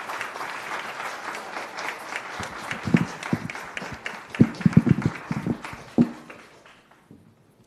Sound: applause

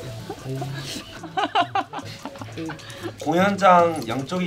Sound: laughs

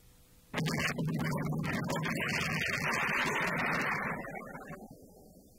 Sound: explodes

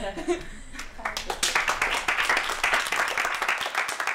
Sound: laughter; applause

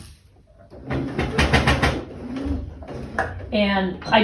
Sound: sewing machine noises

